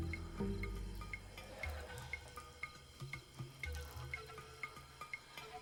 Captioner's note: trickling